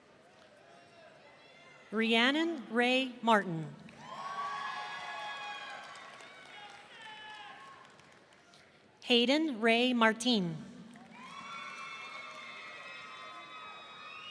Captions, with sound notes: Rhiannon Rey Martin. (audience cheering) Haiden Rey Martine. (audience cheering)